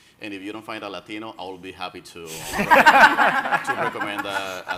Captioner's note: everyone laughing